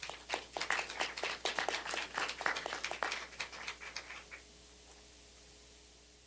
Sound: applause

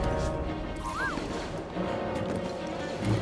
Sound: whistle

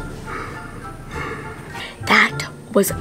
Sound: yawning

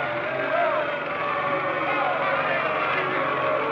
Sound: booing

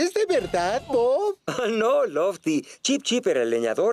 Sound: chuckling

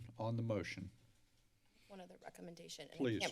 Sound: silence

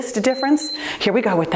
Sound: timer beeps

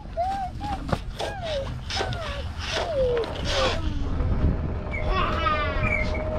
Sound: sail fabric hitting deck; singing

